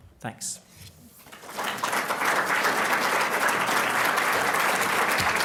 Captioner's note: applause